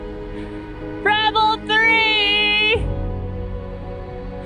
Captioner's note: yelling; yelling